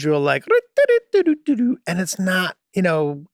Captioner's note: Charlie humming energetically